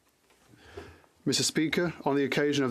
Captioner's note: speaking French